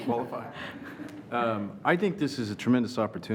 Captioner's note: laughing